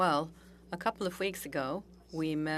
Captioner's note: speaking French